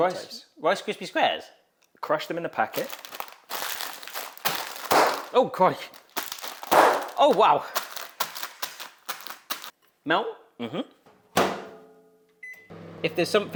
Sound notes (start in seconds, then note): 2.6 bags crinkling; 6.0 bag pops; 6.3 bag crinkles and pops; 8.2 bag crinkling; 11.3 microwave door thumps; 12.4 microwave beeps